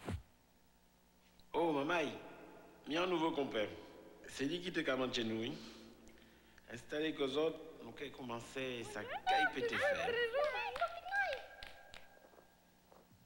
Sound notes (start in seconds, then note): 0.8 speaking French Creole; 5.2 speaking French Creole